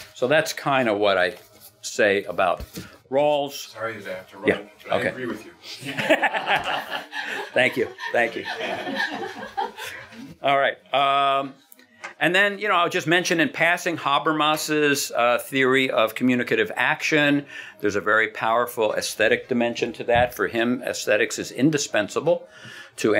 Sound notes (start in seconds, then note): 5.8 laughing